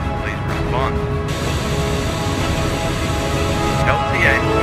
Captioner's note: Static